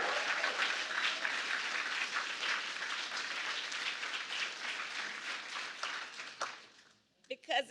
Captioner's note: applause